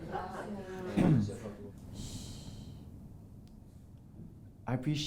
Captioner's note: clears throat; 清喉